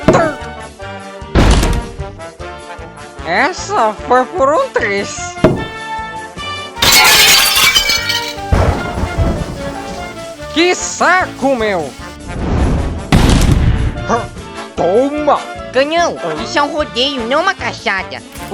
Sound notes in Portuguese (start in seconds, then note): 1.4 Crash quebra madeira; 6.8 Som de vidro quebrando; 8.5 Som de raio; 12.3 ka-boom